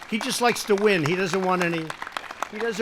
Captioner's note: applause